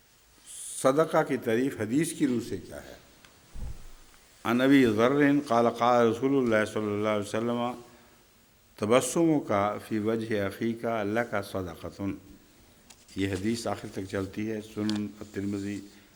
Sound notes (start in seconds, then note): 4.3 Arabic